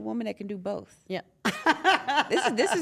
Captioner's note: laugh